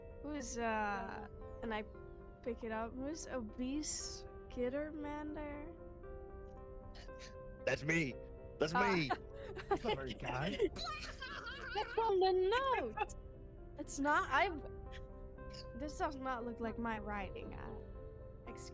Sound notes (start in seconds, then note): 8.6 laughs; 9.4 unhinged rat laughter